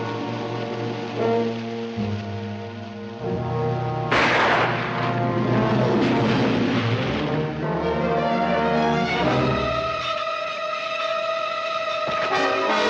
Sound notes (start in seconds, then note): 4.1 firing; 4.1 splashing